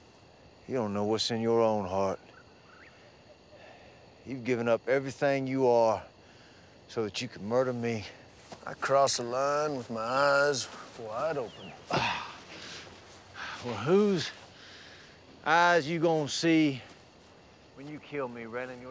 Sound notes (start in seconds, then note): 11.8 grunts